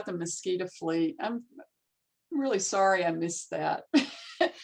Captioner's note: chuckling